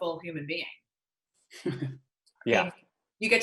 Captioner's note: Andy laughs